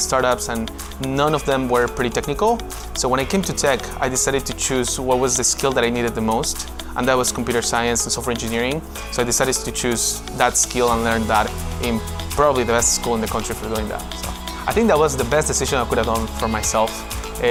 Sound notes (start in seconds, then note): none